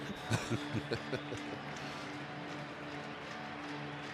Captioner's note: laughter